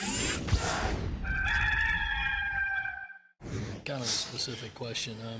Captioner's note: rooster crowing